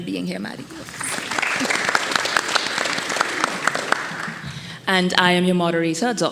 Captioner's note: attendees applauding